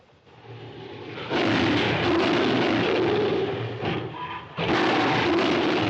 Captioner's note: King Kong roaring